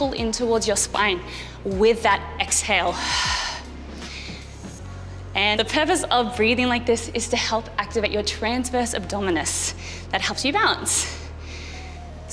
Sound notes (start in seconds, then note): 4.0 breathing out sharply